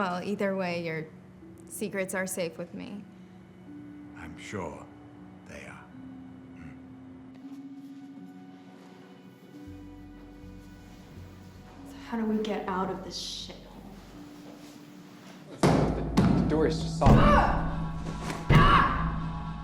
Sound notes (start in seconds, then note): 17.0 loud bang on door